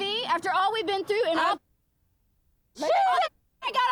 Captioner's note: muted